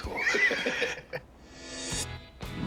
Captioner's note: laughter